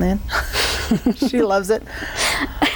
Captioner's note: laughs